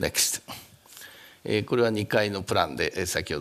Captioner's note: speaking japanese